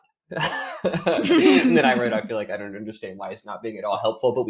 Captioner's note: laughing